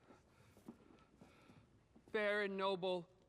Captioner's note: breathes nervously